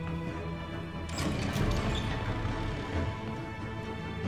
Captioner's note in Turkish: Kapı açılma sesi